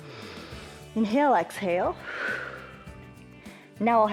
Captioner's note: exhales; inhales